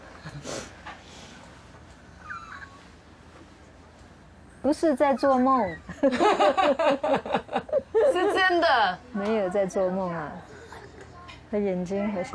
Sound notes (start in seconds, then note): 5.7 laughing; 8.3 speaking in foreign language